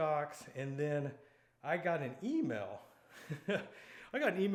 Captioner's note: laughing